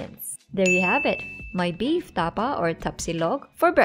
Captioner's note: time Dings